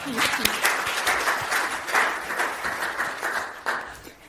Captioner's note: applauding